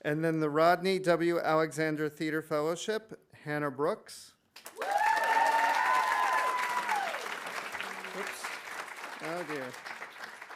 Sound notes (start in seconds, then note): 4.6 audience applauding; 4.7 audience cheering